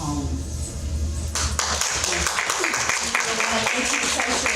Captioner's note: audience clapping